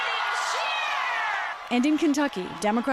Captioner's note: cheering and applause